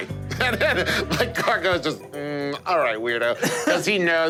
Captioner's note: laughs